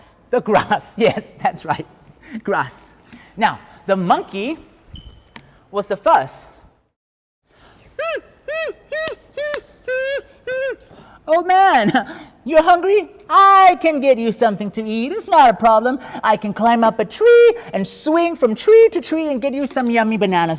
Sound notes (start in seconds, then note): 7.9 monkey noise